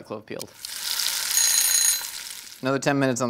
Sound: timer rings

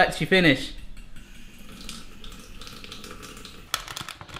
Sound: water running

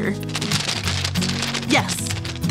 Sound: bag scrunches

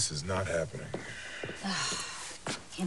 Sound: footsteps approach; sighs

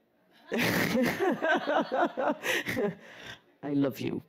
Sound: laughs

